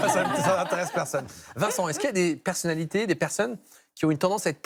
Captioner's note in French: rires